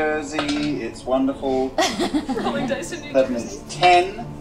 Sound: laughs

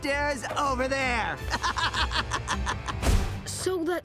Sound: laughing

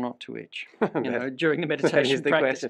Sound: laughs

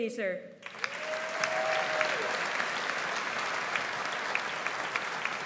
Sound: audience applauds

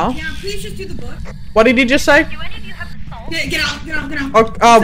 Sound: over Radio

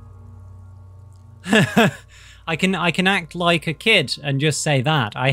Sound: laugh

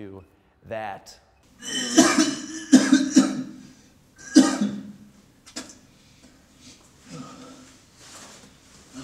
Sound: dry heaving; spit

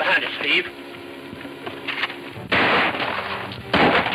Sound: guns roaring

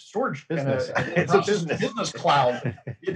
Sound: chuckles

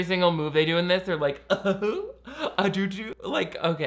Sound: chuckles

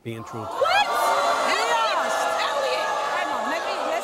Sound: audience boos

